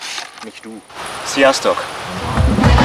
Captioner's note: Hungarian